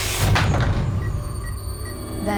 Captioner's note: ominous music; beeping